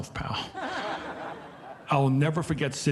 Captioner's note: audience laughing